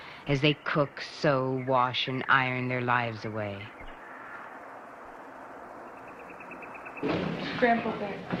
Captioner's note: background crowd noise